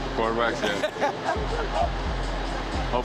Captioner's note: laughs